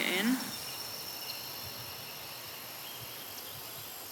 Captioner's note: birdsong, crickets, wind noise